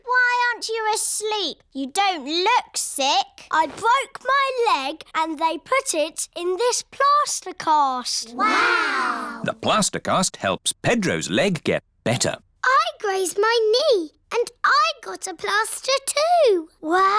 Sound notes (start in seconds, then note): none